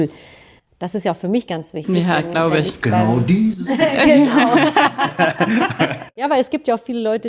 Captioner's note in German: gelächter